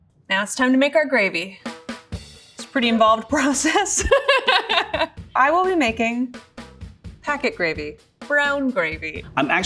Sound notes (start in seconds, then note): 3.6 laughs